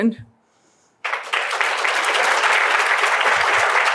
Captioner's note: applause